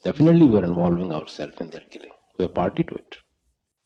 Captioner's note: coughing